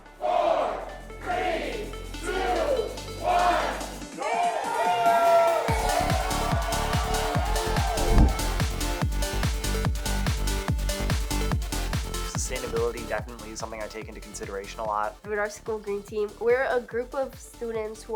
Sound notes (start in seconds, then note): 4.2 audience applauding; 8.9 exciting music